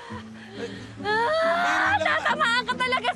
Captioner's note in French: Marge groaning; screams